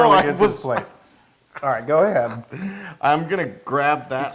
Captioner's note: laugh